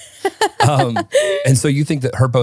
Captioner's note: laughing